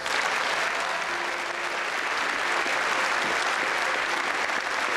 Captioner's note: audience applauding